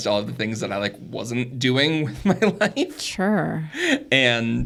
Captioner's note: laughs